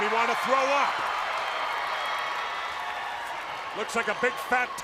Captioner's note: crowd cheering